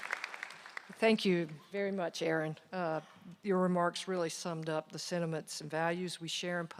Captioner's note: applause